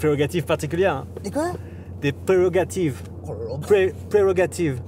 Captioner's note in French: fort accent anglais